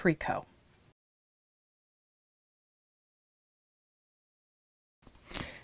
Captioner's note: no Sound Present